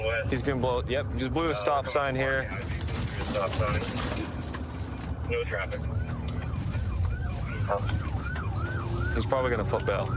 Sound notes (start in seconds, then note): 5.6 sirens wailing